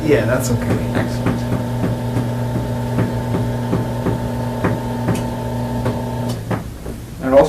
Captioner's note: motorized bed moving down